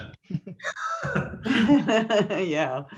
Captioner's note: all laugh